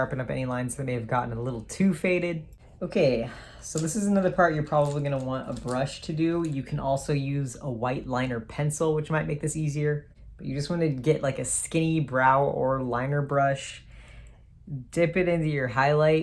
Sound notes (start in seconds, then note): none